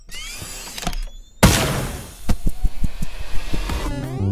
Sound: Piston hits a turtle shell

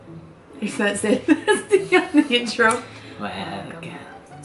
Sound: laughs

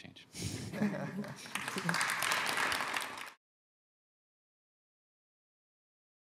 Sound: panelists laughing; audience applauding

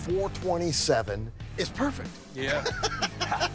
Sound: laughs

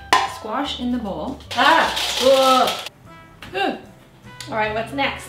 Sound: jazz music; yelling

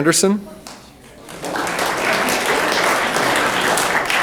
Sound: room applauds

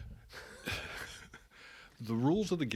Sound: chuckling

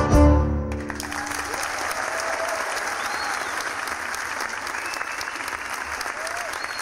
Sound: audience applauding; audience whistles and cheers

